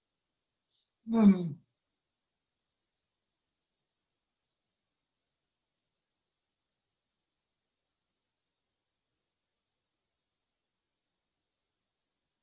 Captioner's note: pause